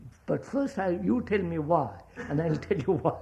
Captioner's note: laughs